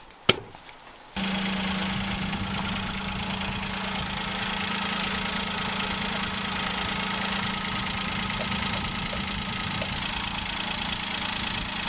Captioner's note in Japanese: エンジン音